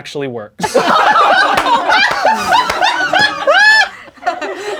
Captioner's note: crowd laughing